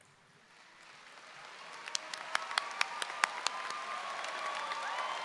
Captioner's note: audience applauding